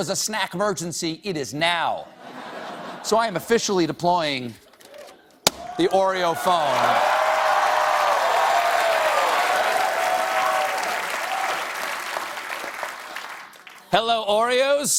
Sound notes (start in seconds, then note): 5.6 cheers and applause